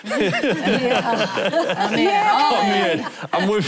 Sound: laughing

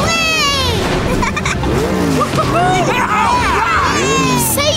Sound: celebrating

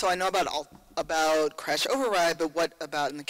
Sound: voiceover

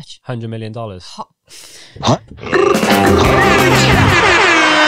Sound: all the sound effects at once

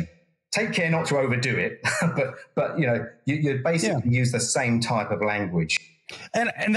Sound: laugh

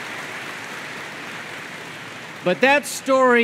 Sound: applause

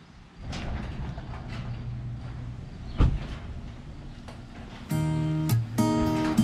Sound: garage door clanking; gentle music

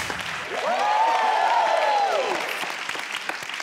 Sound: clapping

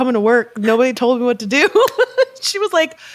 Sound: chuckles

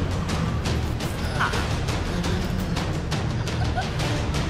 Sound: Catwoman gasping

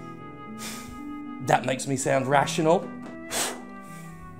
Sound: exhales; blows air

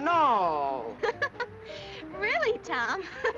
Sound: laughing

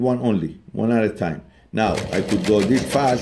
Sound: needle punching

